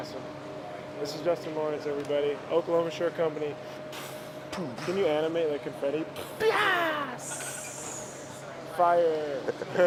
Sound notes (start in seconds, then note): 4.0 blowing air; 9.6 laughs